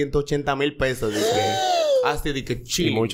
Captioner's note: astonishment sound